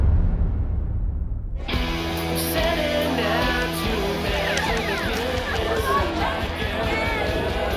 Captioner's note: rock music playing; partygoers chattering